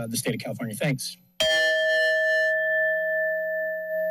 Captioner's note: bell rings